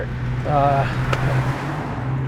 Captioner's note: sighs